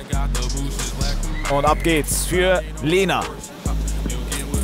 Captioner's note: Pfiff